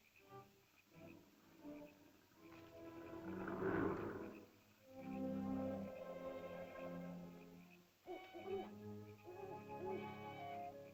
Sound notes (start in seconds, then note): 0.0 soft music; 2.5 animal growls; 4.7 ominous music; 8.0 owl hoots; 8.0 soft ominous music